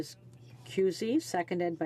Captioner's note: speaking French